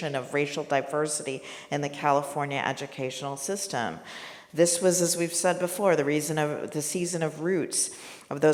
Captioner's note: none